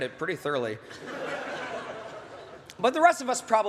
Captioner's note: laughter